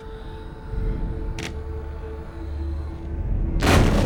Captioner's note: none